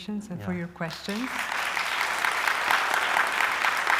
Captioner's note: applause